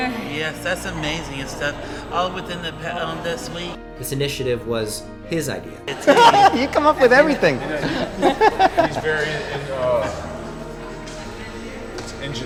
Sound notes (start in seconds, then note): 5.8 laughs